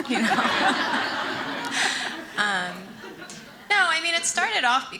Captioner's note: audience laughing